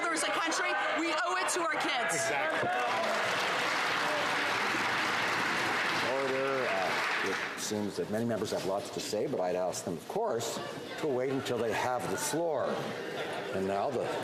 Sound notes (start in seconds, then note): 6.3 some Applause